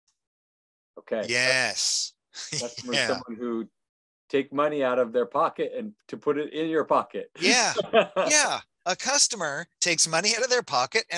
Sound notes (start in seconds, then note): 2.4 chuckling; 7.4 laughing